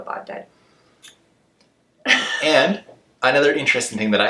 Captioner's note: laughs